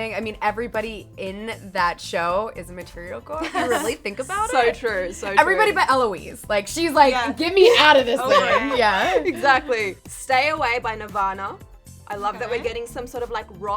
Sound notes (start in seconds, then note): 3.4 chuckles; 8.2 chuckles